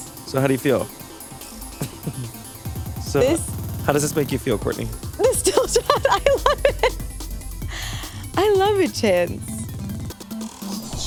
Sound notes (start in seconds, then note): 1.6 chuckles